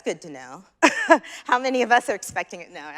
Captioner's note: chuckles